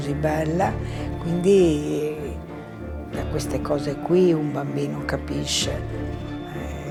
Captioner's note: continues speaking in foreign language